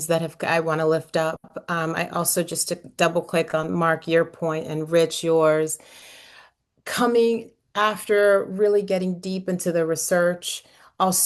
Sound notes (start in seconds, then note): none